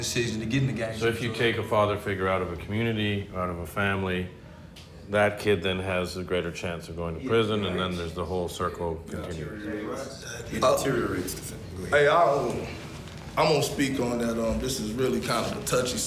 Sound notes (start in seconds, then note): none